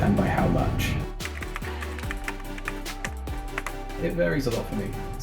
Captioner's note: typing sound